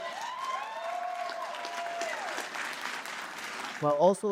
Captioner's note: applause